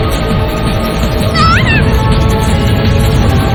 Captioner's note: screams